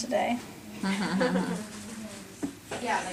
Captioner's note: laughter